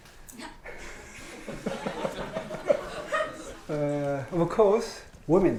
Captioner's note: everyone laughing